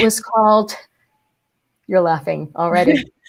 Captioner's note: laughs